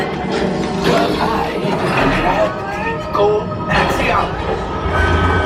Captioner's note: machine rebooting